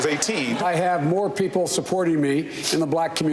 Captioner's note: laughter